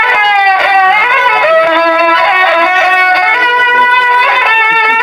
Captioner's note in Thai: ปรบมือ